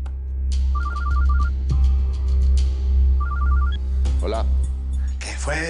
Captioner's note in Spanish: Suena el celular